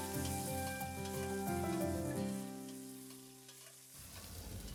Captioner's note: water boiling